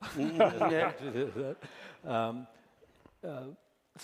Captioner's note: laughter